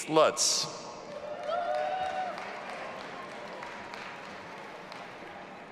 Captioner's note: audience applauding and cheering